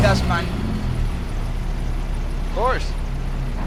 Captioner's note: car engine humming